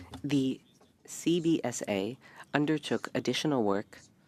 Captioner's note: speaking French